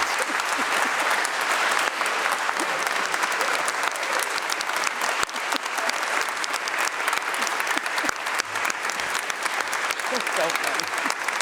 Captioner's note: applause